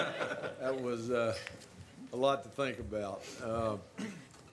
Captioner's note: laughter